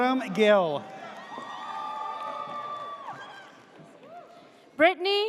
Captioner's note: audience cheers